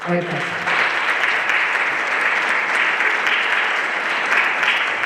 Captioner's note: everyone applauding